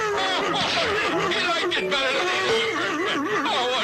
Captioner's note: walrus laughing; laughs